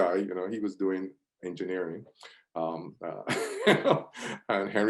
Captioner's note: laughs